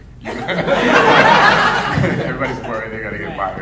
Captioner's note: audience laughing